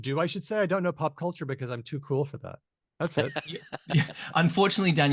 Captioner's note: laughs